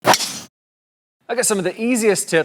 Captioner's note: golf club whacks